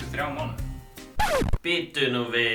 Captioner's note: record scratch